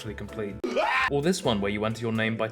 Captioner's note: shrieks uncontrollably